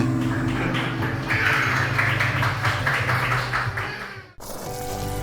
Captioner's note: applause